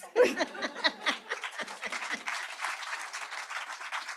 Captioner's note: applause